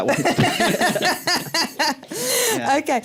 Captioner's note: laughter